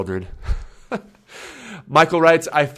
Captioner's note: laughs